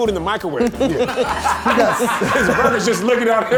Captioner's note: all laughing